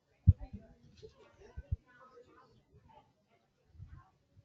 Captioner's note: faint chattering